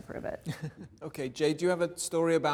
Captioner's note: laughing